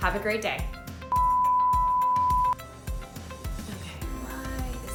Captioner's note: beeping